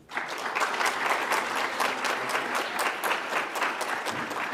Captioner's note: audience applauds